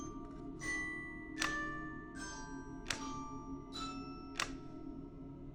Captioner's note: switch clicking